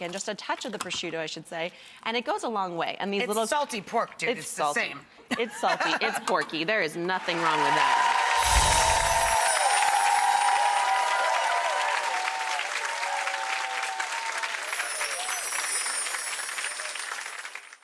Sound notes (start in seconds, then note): 8.1 bells chiming; 8.1 audience applause